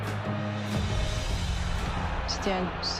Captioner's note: crowd roars